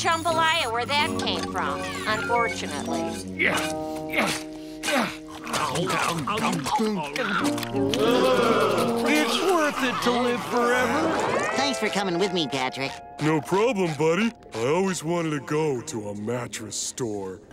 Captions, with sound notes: where that came from, unfortunately. [grunting] [groaning] It's worth it to live forever. Thanks for coming with me, Patrick. No problem, buddy. I always wanted to go to a mattress store.